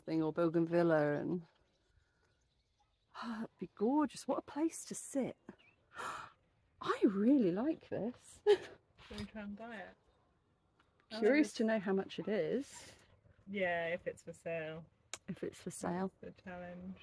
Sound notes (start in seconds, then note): 3.2 sigh; 6.0 gasp